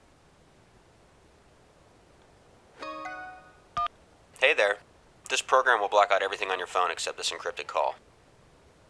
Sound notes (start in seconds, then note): 2.6 phone chimes, line clicks